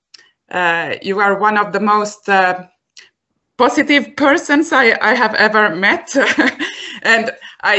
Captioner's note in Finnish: laughs